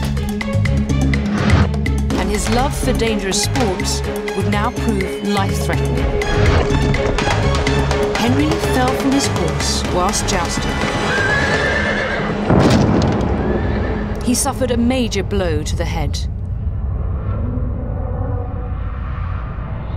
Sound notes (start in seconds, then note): 6.1 horse hooves clop; 10.9 horse neighs; 11.4 body thuds